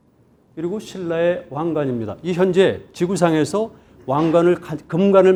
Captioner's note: speaking in Korean